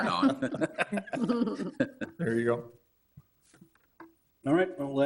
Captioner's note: all laughing